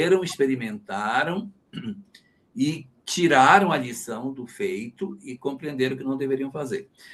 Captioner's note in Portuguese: limpando a garganta